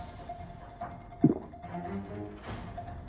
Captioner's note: gluping